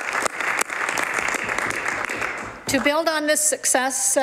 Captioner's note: some Applause